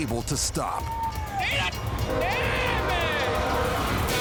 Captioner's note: indistinct shouting